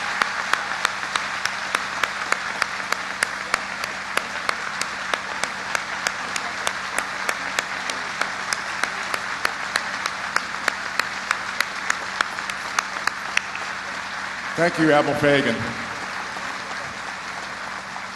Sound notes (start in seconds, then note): 6.7 applause